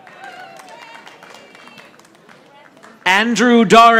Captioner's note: audience applauding